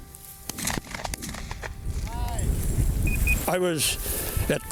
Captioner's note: gunfire bangs